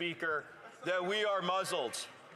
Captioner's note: applause